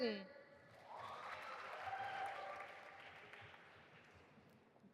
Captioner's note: audience applauding